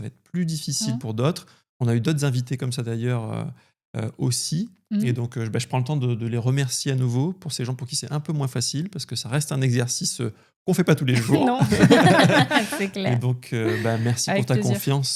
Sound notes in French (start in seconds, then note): 11.1 rires